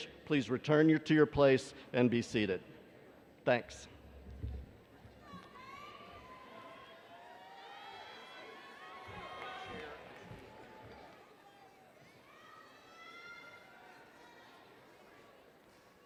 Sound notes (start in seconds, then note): 5.5 attendees yelling